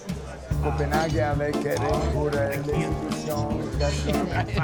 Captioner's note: restaurant patrons talking